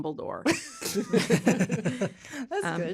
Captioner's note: all laughing